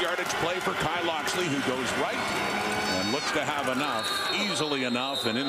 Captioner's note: crowd Noise